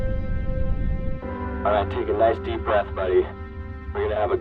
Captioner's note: voiceover